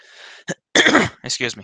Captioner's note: clears throat